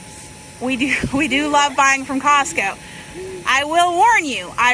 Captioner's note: laughs